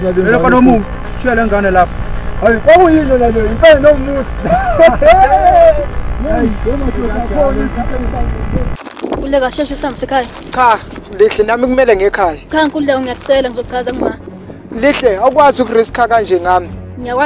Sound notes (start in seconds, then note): 4.4 laughs